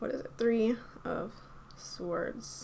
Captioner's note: none